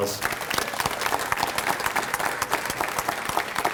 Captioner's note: audience applauds